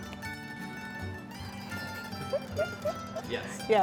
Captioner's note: giggles